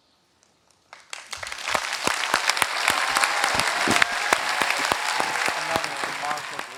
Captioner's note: applause